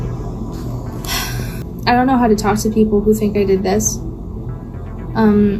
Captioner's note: sighs